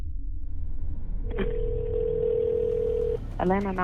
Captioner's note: tense music; phone rings